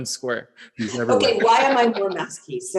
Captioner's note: laughs